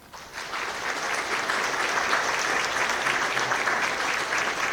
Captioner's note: audience applauds